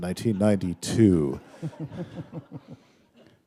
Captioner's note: laughter